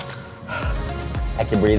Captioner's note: upbeat music; heavy exhale